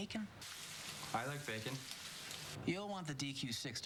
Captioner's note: sizzling